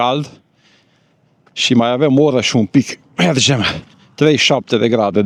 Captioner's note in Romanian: voce dreasă